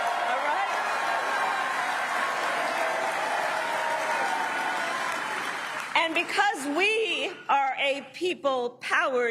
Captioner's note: cheering and applause